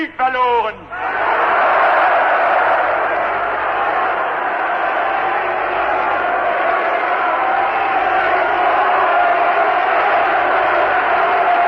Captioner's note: applause, Screams: "No!", "Never!"